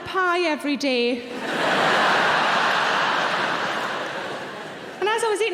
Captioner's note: audience laughing